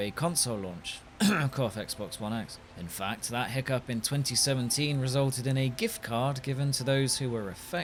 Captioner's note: cough